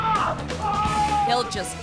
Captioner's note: screaming